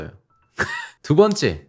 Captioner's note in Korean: 흐익ㅋ